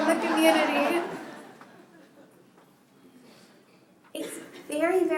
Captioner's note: laughter